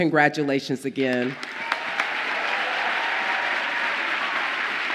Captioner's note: audience applauds